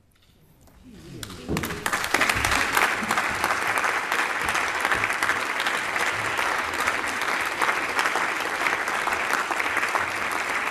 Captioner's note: applause